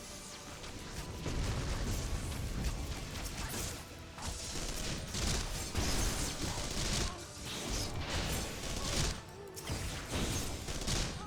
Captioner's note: gunfire